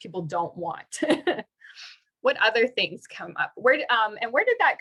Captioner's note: laughter